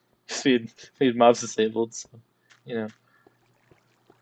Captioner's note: laughs